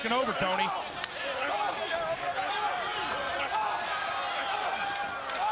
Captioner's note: crowd chattering